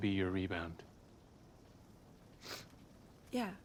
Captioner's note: sniffles